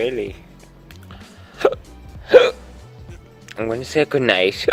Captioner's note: hiccup